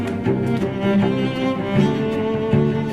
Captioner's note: clothes rustling